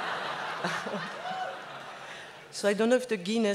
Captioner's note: laughs